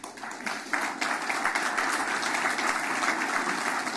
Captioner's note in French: Applaudissements